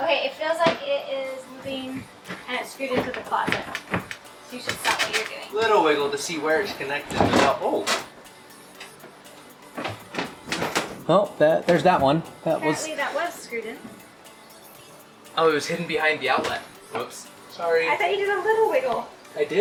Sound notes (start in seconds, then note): 7.4 panels creak